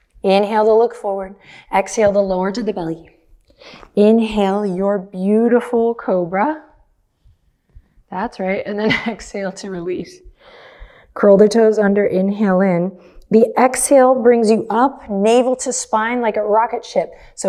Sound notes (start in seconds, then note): 8.8 chuckles